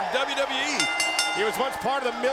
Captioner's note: bell rings